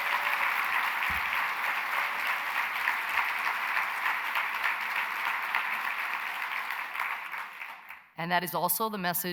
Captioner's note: applause